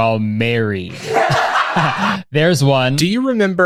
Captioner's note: laughing sound